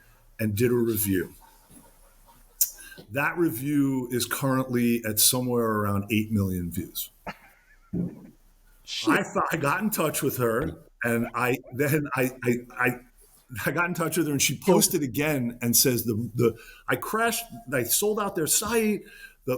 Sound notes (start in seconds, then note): 8.9 laughs